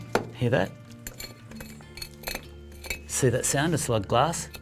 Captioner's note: scraping